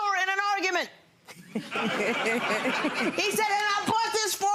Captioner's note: laughter